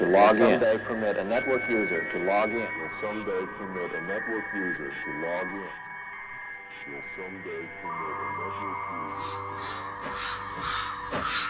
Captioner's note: echoes